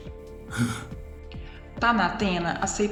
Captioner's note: holds breath